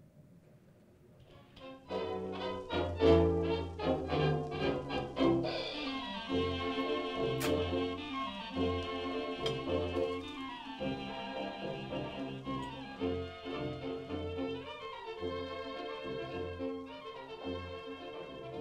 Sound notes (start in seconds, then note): 2.7 big band music playing; 7.8 eating and slurping